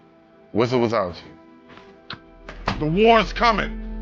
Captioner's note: door closing